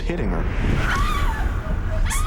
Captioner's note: screaming